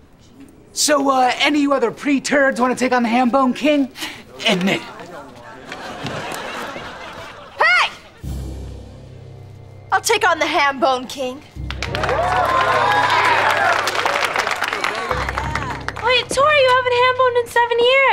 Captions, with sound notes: So, uh, any other preturds want to take on the Hambone King? Hey! I'll take on the Hambone King. [cheering, applauding] Wait, Tori you haven't hamboned in seven years.